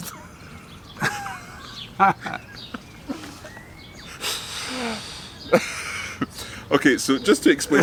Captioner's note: laughing